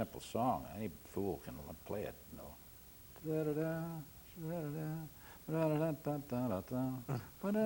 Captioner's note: hums